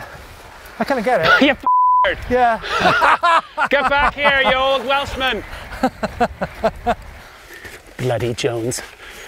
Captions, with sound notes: Yeah, I couldn't get it. - Yeah (beep). Get back here, you old welshman! Bloody Jones.